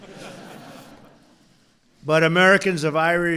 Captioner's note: laughter